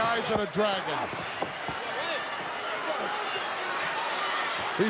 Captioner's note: crowd yelling